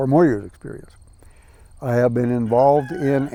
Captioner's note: rooster crows